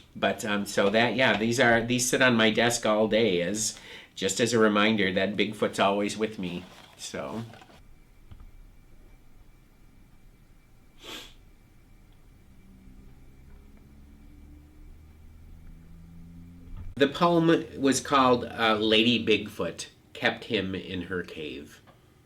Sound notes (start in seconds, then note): 11.0 sniffing; 12.2 car engine rumbling